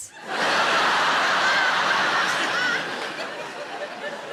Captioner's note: audience laughs